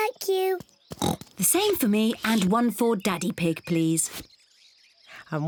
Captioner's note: oinks